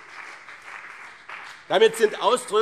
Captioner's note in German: Beifall BÜNDNIS 90/DIE GRÜNEN und CDU